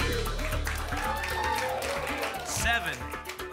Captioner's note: applause and cheering